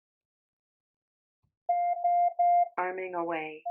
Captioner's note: beeping